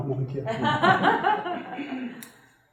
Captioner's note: audience laughter